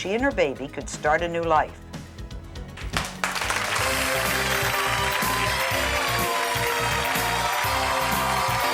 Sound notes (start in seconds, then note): 2.4 upbeat music; 2.8 audience applauds